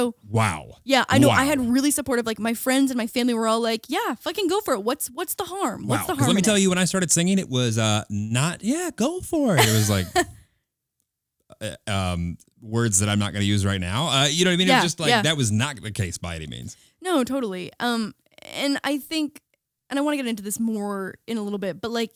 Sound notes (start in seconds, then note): 9.5 laughing